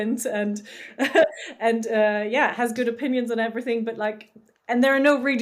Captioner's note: laughs